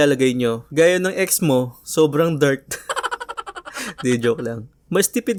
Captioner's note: laugh